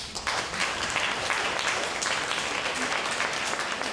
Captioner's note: applause